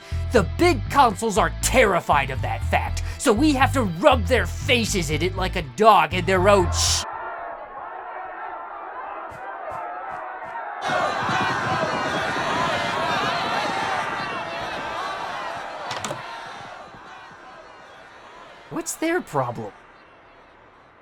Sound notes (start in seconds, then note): 6.5 screaming crowd noises